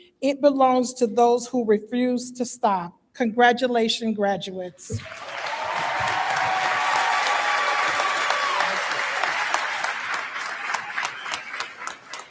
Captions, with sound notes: It belongs to those who refuse to stop. Congratulations graduates. (Audience Applauding)